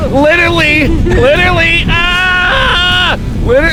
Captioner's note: screaming